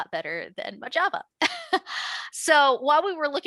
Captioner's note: chuckles